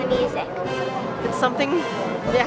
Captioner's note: laughs